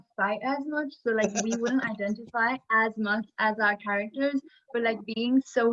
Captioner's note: laughs